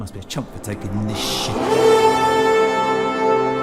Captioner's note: roar